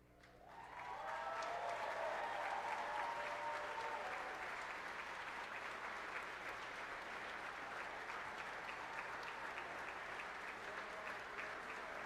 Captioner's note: cheers and applause